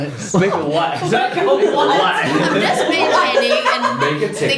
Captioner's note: laughter